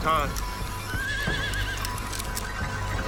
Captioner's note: horse neighs